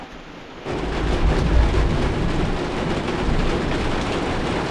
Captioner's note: thunder booms louder